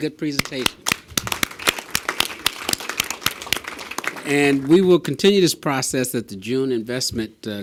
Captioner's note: applause